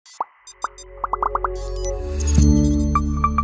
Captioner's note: logo pops; logo chimes